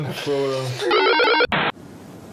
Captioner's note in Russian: помехи